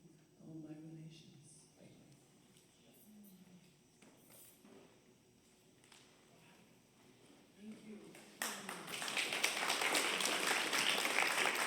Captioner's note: applause